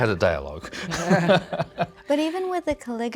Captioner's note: laughs